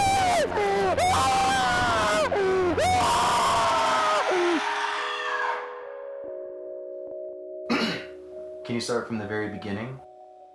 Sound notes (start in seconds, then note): 0.0 screaming; 0.0 man frantic screaming; 3.9 deep screaming